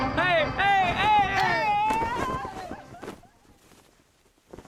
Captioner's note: band music playing; team cheering